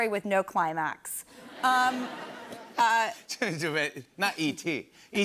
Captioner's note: laughter